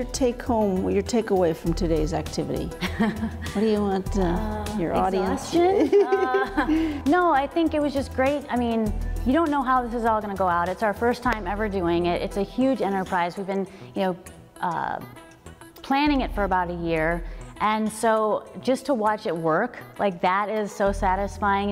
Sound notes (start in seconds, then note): 2.9 woman laughs; 5.5 laughs